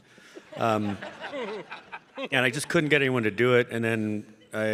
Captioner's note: audience laughing